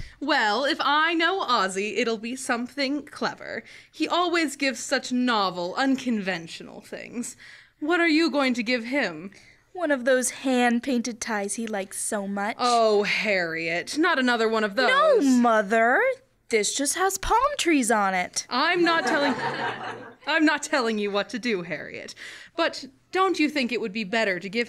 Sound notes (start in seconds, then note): 18.9 laughter